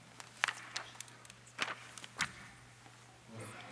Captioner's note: paper rustles